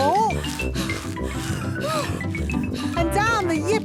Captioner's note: puffing and panting